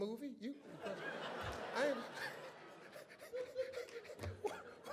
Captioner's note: audience laughs